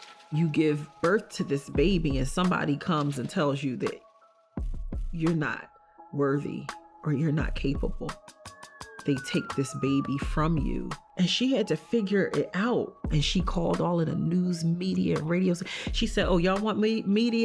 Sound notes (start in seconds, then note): none